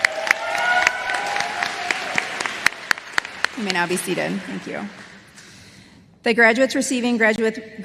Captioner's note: applause